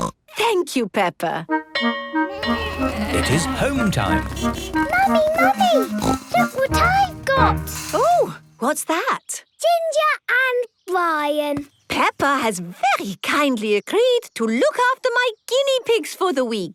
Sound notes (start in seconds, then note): 1.7 bell clanging; 4.1 honking